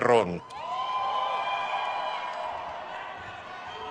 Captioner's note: crowd cheers